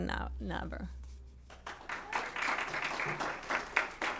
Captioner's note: applause